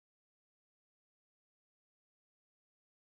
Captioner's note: none